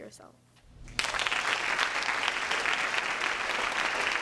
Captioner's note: applause